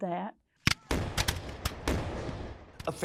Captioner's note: sound of guns firing